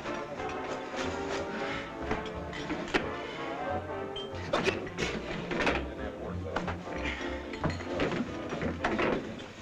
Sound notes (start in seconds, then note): 4.5 groaning